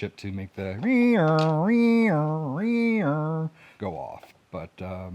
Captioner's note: imitates siren sounds